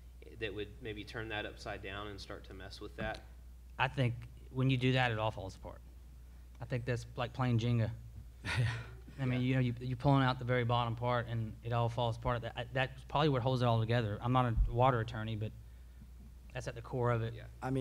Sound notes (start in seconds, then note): 8.4 laughs